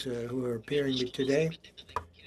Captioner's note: speaking French